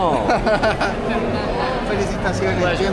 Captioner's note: awkward laugh